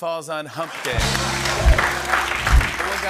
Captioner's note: applause